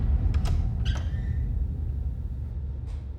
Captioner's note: door creaking open